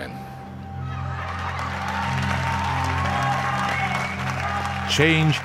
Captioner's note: crowd cheering